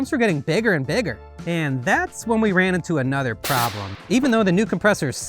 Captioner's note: air rushing